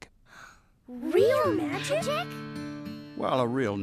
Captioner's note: both Gasp